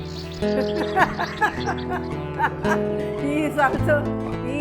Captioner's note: laughs